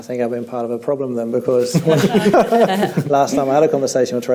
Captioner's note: panel laughs